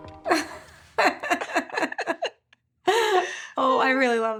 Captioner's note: laughing